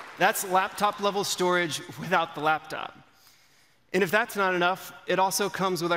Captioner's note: applause